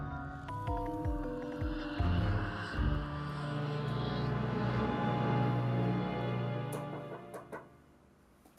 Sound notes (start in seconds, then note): 0.0 eerie music; 7.0 knocking